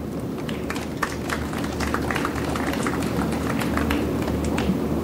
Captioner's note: audience applauds